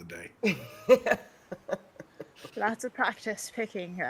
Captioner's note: person laughing